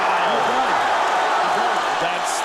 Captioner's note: crowd cheering raucously